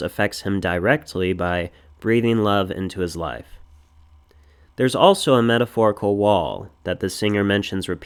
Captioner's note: breathing